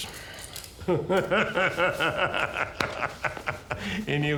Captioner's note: man laughing